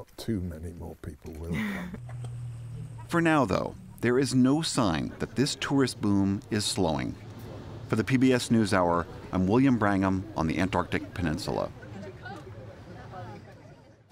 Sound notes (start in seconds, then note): 1.5 laughter